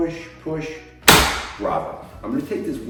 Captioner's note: table snaps